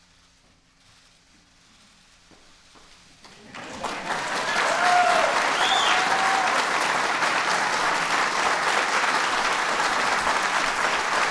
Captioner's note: applause